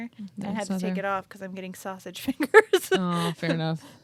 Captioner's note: laughs